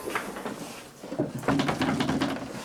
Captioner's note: knocking on door